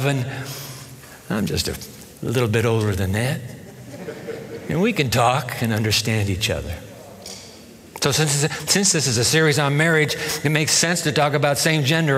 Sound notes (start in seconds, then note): 3.5 laughter